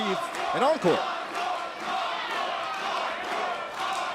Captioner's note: crowd cheering